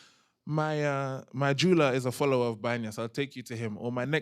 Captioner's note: non-english